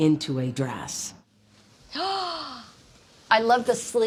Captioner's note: gasps